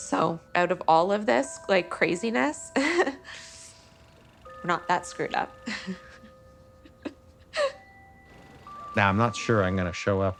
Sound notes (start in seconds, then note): 2.7 laughs emotionally; 5.2 laughs